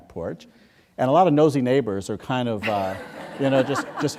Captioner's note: laughter